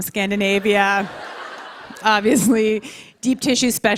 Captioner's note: laughter